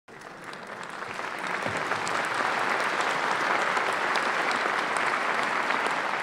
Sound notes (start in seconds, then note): 0.0 applause